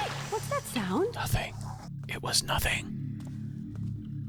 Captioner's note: whispers